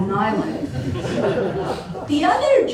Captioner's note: laughter